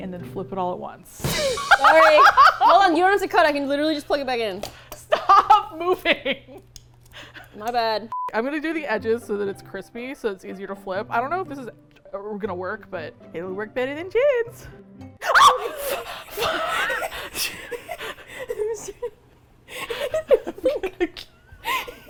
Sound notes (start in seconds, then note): 1.1 symbol crashes; 1.3 laughs; 5.1 laughing; 12.8 high-pitched voice; 15.2 shrieks; 19.5 both laugh; 21.9 laughs